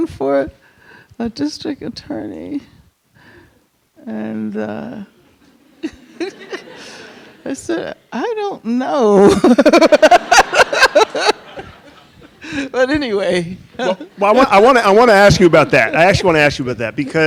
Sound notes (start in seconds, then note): 4.5 chuckles; 9.2 Angela Davis and audience laugh